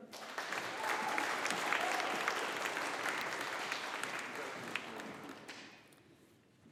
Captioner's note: audience applauding